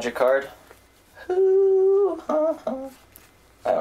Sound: vocalizes for a bit

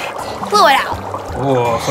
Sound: bubbling

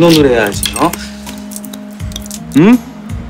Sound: tap, tap, tap

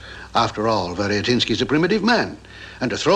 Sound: none

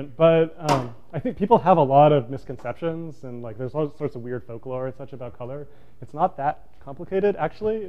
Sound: none

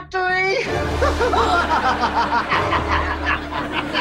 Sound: laughing

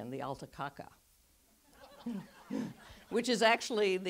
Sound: audeince laughs

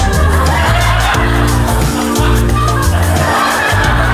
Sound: audience laughs

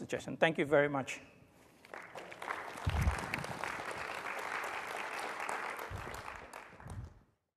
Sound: applause

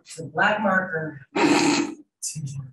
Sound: snorting

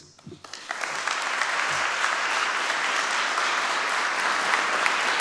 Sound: audience applauding

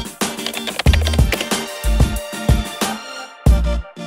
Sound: typing

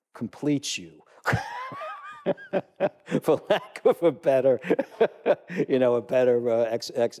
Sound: laugh

